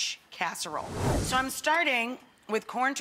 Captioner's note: whooshing